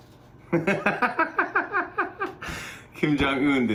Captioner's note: laughter